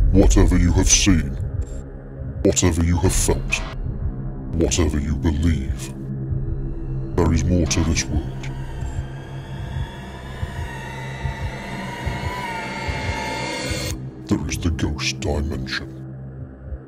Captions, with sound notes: Whatever you have seen, whatever you have felt, whatever you believe, there is more to this world. (heart beating) (suspenseful music) There is the Ghost Dimension.